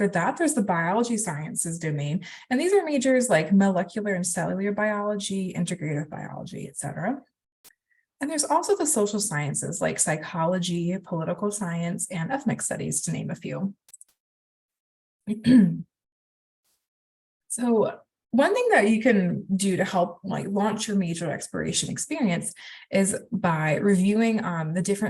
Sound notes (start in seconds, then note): 15.4 clears throat